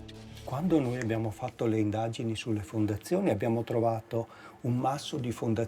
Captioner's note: speaking in foreign language